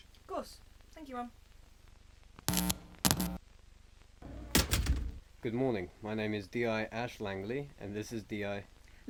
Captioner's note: heavy door opens and slams shut, loudly